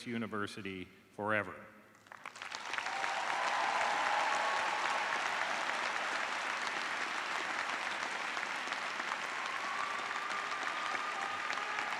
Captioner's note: cheers and applause